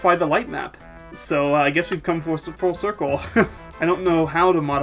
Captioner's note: laughing